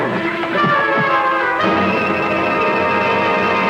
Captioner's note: horse whinnying; bodies thud; intense music